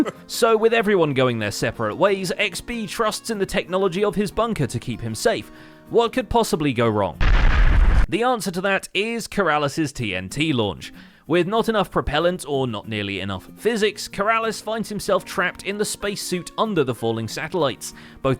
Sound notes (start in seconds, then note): 7.2 explosion